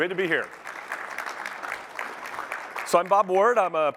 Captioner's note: applause